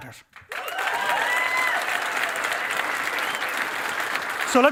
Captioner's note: cheering and applause